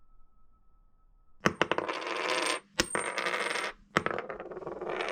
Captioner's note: coin clacking